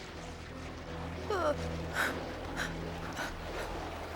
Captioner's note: whimpering